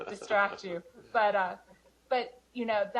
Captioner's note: laughter